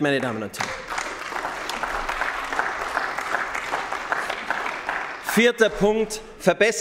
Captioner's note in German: Beifall bei den GRÜNEN